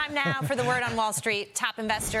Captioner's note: laughter